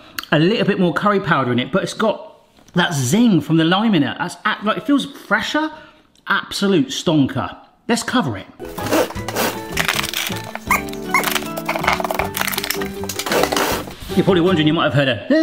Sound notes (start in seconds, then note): 8.6 wrapper wrapping; 8.6 wrapper moving